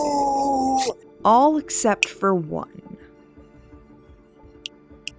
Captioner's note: Pitch snapping his fingers